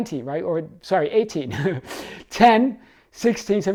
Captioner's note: chuckles